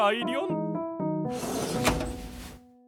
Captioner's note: drawer opens